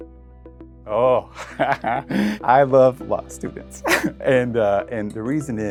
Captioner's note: laughs